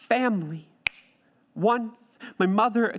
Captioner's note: snaps finger